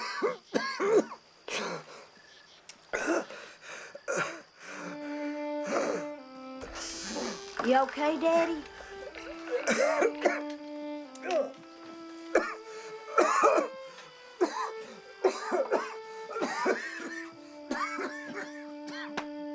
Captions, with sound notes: (calm music) You okay, Daddy? (hard coughing)